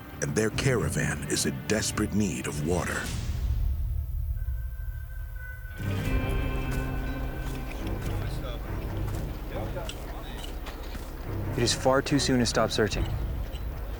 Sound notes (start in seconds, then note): 5.8 men murmuring